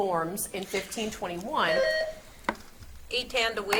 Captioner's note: buzzer beeps